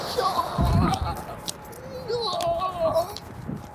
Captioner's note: traffic roaring; groans